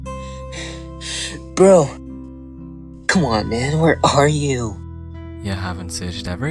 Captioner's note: breathing